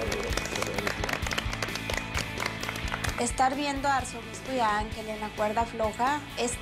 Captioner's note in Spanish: aplausos